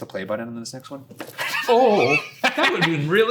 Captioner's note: laughing